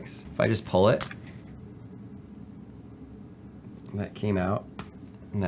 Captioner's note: band snaps